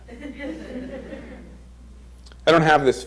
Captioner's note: crowd chuckles